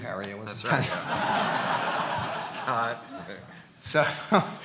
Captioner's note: audience laughing